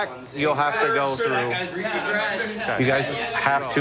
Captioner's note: arguing